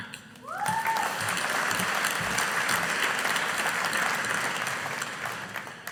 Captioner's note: audience applauding